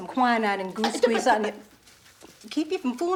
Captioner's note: Beverly stutters